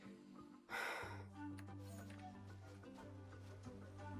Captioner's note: sighs